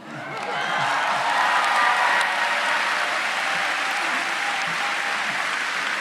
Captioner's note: audience cheering and applauding